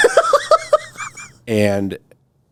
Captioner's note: laughing